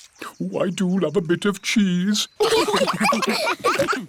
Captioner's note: laughter